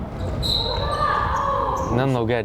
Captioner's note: whistle blowing; player yelling